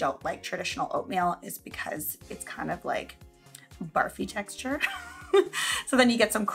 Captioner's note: laughs